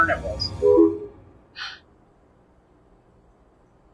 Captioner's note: phone beeps